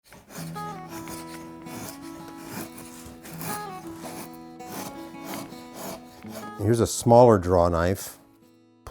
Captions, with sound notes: (soft guitar music) (knife carves) - Here's a smaller draw knife.